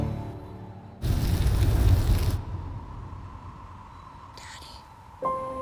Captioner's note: flames roaring